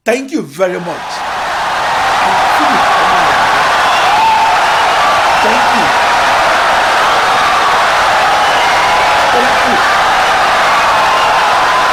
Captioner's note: wild applause and cheering for 17 seconds